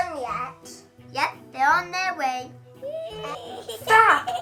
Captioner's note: giggles